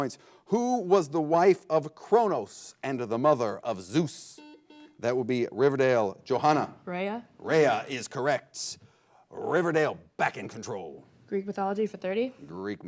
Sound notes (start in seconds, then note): 4.2 buzzer blares